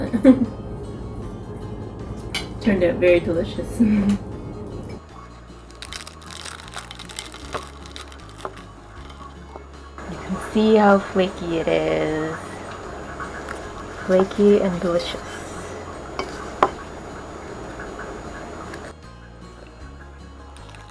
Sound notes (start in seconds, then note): 3.1 laugh; 5.6 crunch; 18.6 eating crunch